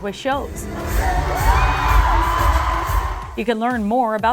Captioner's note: screams